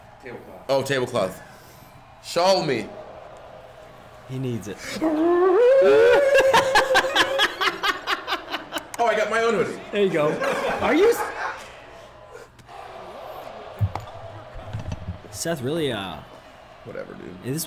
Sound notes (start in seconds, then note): 2.9 applause; 4.8 laugh; 13.4 applause